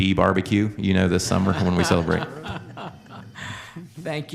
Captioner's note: laughter